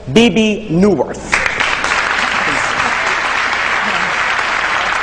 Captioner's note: audience clapping